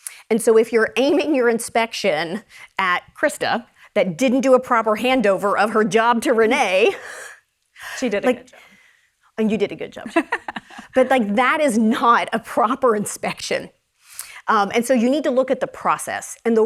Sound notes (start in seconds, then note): 10.0 laughs